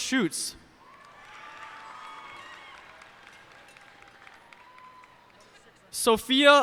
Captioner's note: cheers and applause